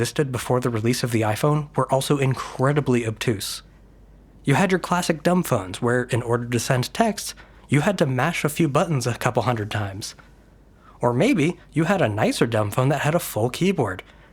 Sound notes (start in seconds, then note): none